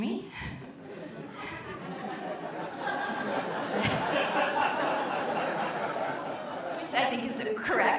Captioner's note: audience laughter